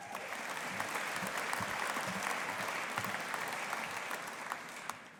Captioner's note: audience applauding